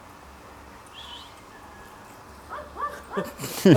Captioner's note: distant Whistle